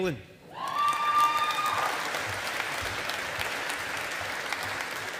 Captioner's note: audience applauding